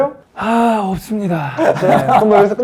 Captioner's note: sighs